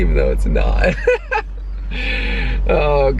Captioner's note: laughing